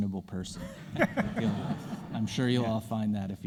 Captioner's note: audience laughing